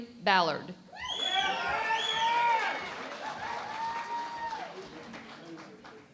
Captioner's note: cheering and Applause